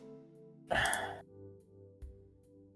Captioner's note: sigh